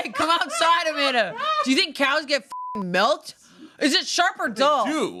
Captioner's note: beep